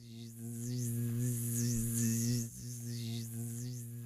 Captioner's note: buzzing